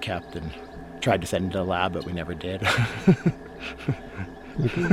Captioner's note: laughs